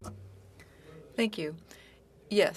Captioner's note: speaking French